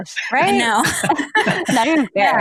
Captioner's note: all laugh